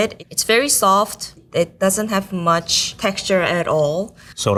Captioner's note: none